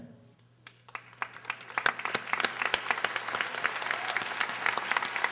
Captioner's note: audience applauding